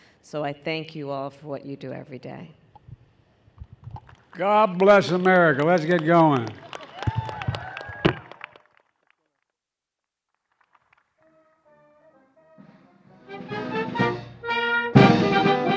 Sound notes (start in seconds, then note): 8.1 applause; 14.2 patriotic Music